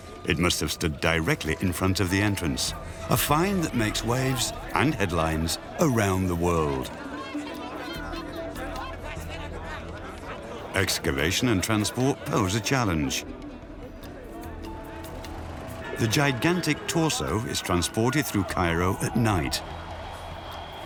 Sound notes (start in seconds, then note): 8.9 excited chattering